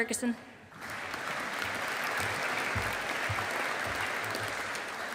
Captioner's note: audience applauding